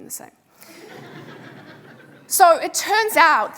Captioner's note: audience laughing